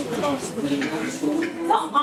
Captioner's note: coughing